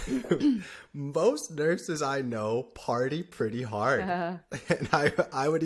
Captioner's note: laughter